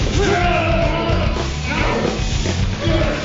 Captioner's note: grunting